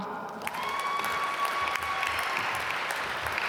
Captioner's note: applause